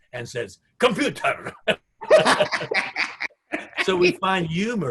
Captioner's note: both laugh